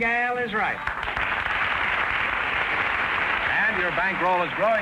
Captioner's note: applause